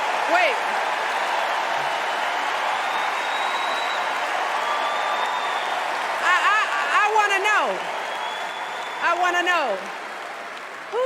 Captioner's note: cheers and applause